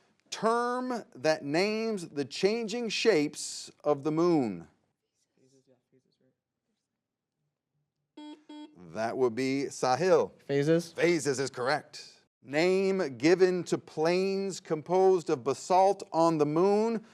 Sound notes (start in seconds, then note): 8.2 buzzer beeps